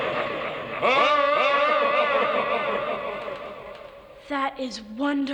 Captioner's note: wild scary laughter